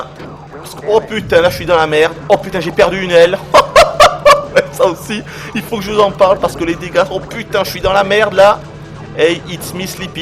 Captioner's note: laughs